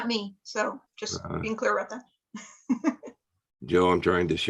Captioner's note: laughs